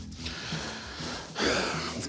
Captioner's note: sighs